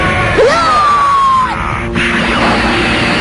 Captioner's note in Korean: 강태양의 기합 소리